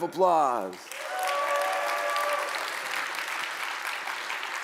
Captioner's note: audience cheering